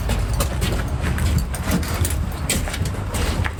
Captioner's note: metal clanking; footsteps thudding